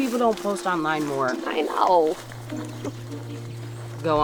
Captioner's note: chuckles